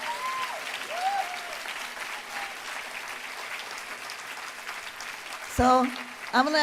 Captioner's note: applause